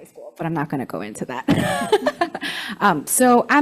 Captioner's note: laughs